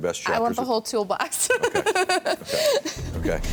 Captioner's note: laughs